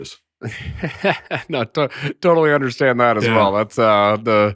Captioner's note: laughs